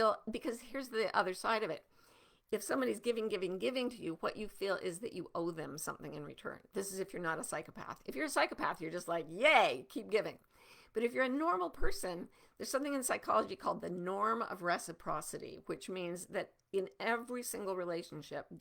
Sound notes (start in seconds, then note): none